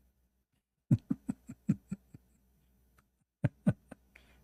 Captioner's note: Ketawa